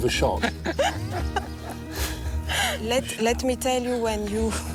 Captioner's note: laughing